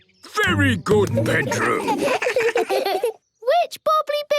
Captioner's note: children giggle